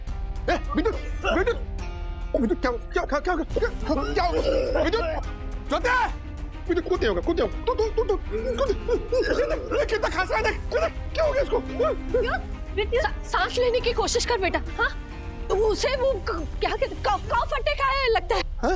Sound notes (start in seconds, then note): 4.8 coughs